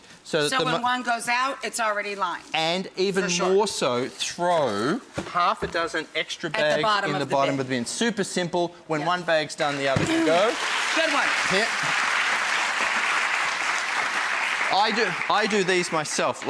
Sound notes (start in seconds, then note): 10.1 applause